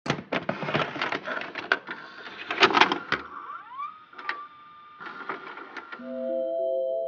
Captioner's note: analog horror noises